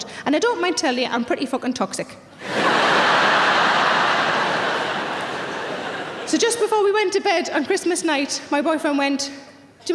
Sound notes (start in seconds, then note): 2.4 audience laughing